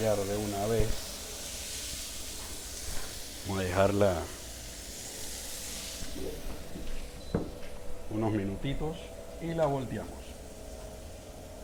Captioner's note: sizzling sound